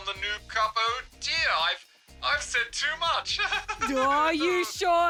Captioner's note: laughs nervously